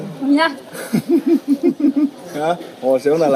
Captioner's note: SOON laughs